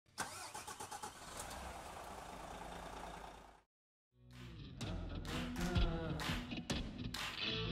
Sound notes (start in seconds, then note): 0.1 car engine starts; 4.3 upbeat music